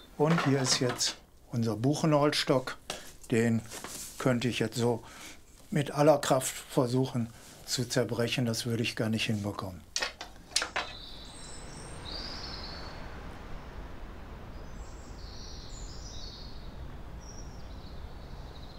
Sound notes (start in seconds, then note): 12.4 cheerful birdsong